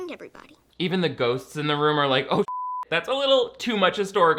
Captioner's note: beeps